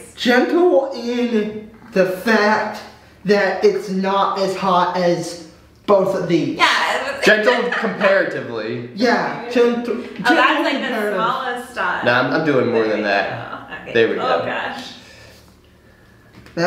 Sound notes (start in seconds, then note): 6.9 laughs